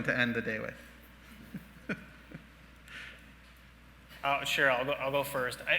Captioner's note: laughing